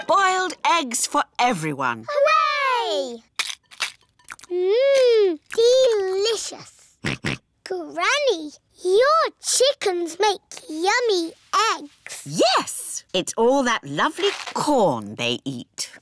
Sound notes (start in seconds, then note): 7.0 george oinks